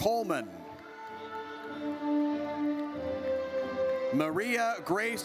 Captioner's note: audience cheers